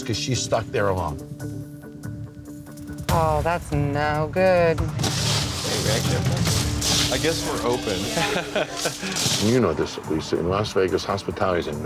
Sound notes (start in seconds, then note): 4.8 ice swooshing; 7.2 laughs